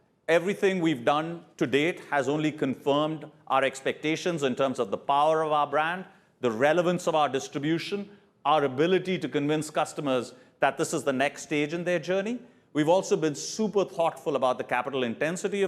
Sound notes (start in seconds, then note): none